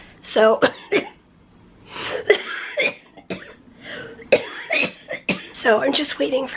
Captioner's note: coughing